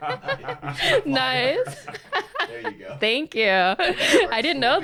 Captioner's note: both laughing